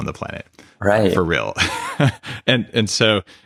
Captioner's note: laughs